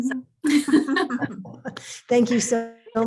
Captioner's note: laughter